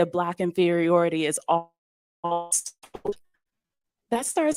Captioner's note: distorted audio